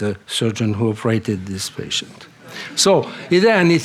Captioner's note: laughter